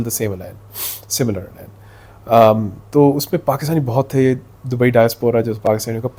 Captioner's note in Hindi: नाक से की जाने वाली आवाज़